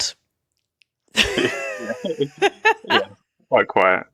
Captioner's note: laughter